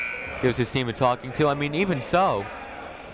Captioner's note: buzzer ringing